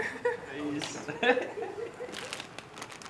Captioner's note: laughs